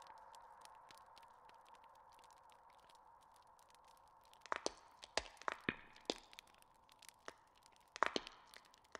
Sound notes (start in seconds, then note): 5.6 bones cracking